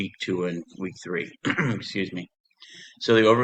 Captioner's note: clears throat